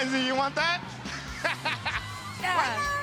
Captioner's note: laughing